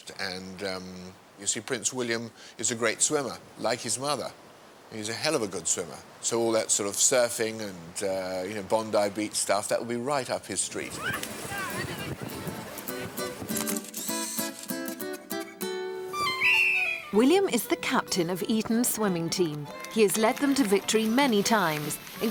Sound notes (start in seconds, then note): 11.1 chattering; 12.0 pleasant music; 13.5 camera clicking; 16.1 whistle blaring